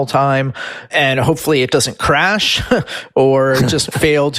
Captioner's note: laughs